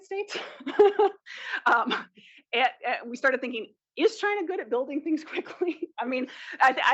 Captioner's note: laugh